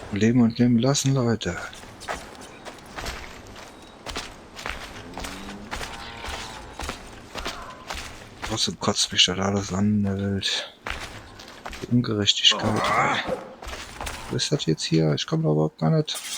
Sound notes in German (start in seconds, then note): 12.3 stöhnen